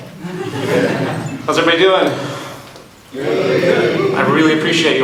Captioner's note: audience in unison